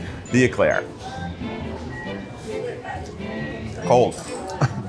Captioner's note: gentle upbeat music; people chattering; chuckles